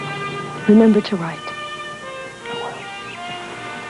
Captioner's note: whispers